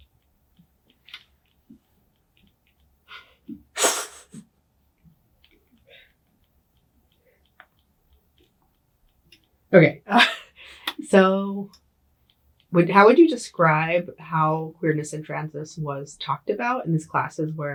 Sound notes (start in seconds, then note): 3.9 laughs; 10.1 laughs